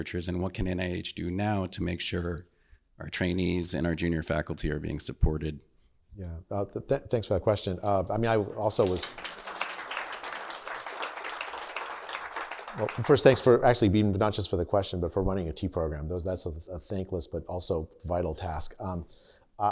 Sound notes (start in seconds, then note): 8.7 applause